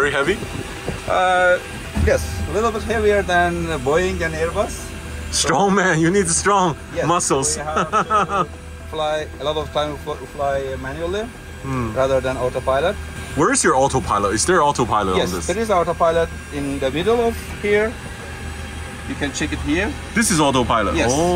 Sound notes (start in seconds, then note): 7.7 laughter